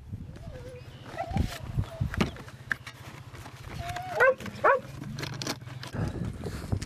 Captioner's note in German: Hunde jammern, Schrotflinten Regale